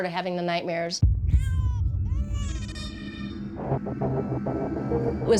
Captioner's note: crying